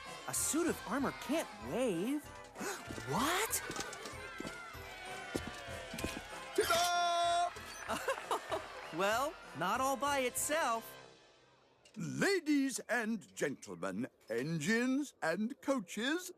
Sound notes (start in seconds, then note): 2.3 gasps; 7.7 laughs